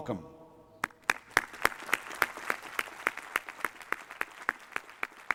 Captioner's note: applause